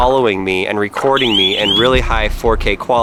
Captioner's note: alarm blares